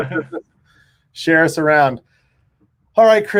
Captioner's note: laughs